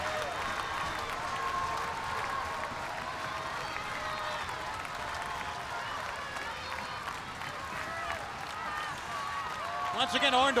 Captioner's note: crowd cheering